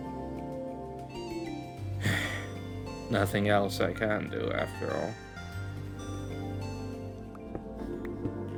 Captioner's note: sigh